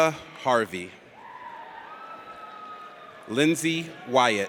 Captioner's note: audience cheers